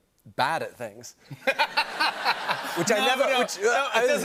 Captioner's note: laughter